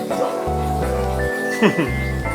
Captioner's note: man laughs